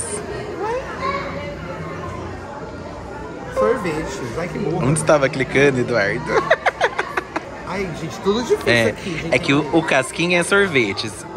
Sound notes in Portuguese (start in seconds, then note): 6.3 risos